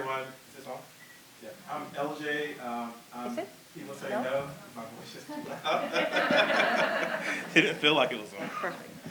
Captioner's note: laughter